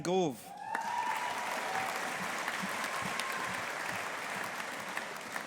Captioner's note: audience applauding